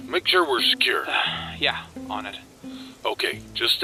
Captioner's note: sigh